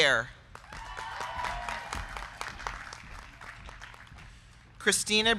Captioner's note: crowd clapping; crowd cheering